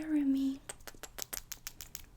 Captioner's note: kisses